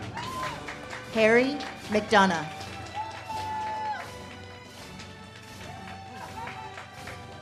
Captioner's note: audience cheers and claps